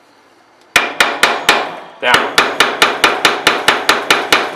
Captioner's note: hammering on metal